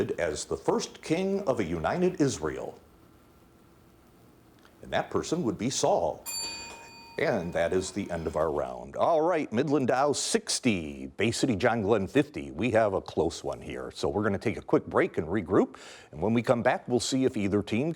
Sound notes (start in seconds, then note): 6.2 bell dinging